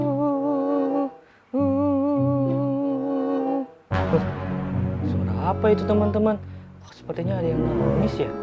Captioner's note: crying